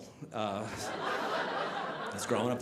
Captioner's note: audience laughing